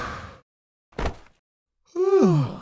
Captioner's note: light thud